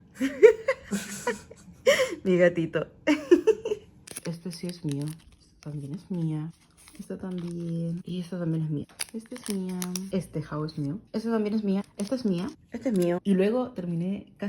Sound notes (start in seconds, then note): 0.2 laughs